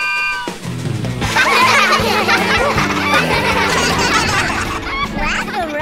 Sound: laughing

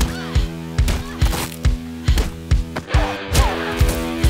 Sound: heavy rock music; punch thuds; punches thudding

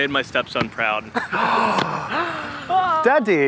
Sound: gasps

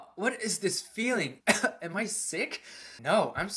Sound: cough

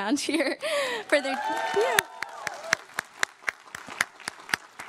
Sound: crowd claps and cheers

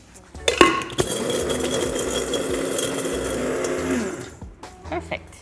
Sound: grinder motor buzzing

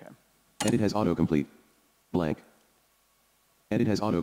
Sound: computer Voice

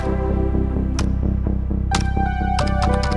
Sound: typing

